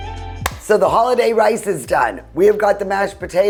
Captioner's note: claps